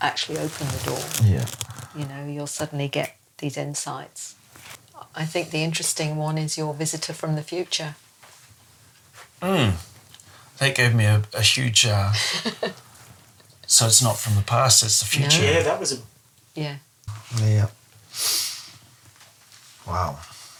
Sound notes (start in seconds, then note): 12.1 chuckles; 17.2 inhales